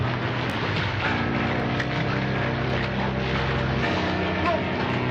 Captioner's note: none